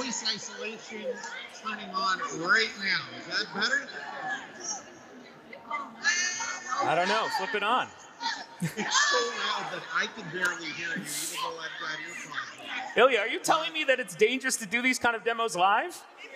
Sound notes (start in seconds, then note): 8.2 laughing